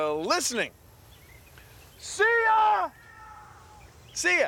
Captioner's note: echoing